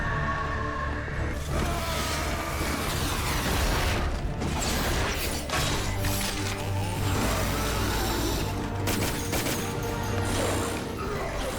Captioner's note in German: Schreie & Kampfgeräusche